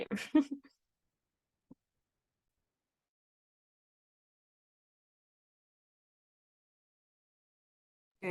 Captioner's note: silence